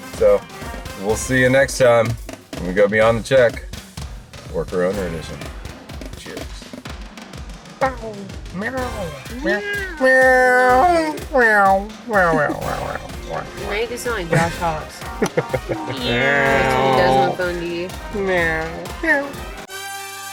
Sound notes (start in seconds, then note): 8.5 both exclaiming; 15.2 exclaiming; 20.1 zestful music